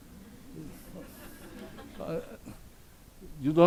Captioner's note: audience laughs